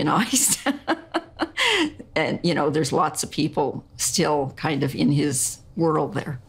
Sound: chuckling

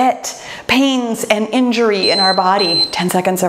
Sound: timer beeps

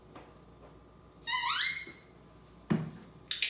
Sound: squeaking door sound

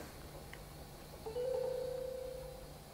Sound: phone text chime

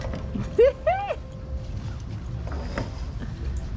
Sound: laughs

